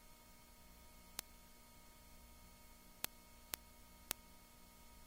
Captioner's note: clicking; clicking